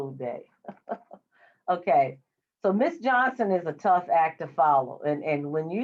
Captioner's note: laughs